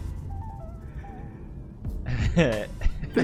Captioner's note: precious pewds laugh